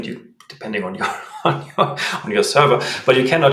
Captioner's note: laughs